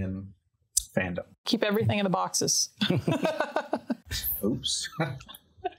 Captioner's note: laughing